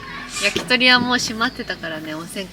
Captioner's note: laughs